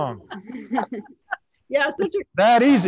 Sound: panelists laughing

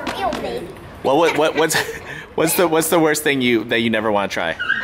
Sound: laughs

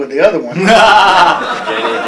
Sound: laughter

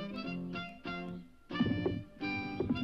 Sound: rock rumbles

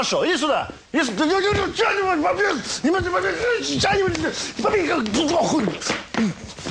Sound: sounds of fight, inexpressible disappointment and chagrin

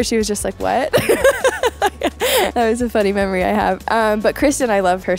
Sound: laughs

